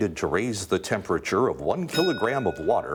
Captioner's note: bell dinging